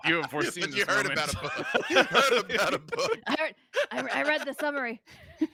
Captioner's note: laughing